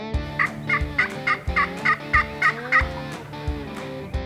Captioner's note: turkey call device yelping; upbeat country music